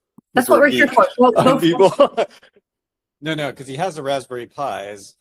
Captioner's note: laughs